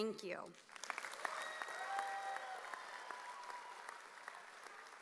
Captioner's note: audience cheering